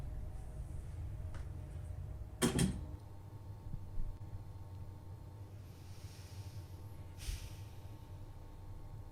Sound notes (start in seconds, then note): 2.4 lamp buzzes; 2.6 switch clicks; 5.6 breathes deeply